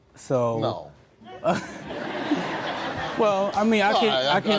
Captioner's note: audience laughing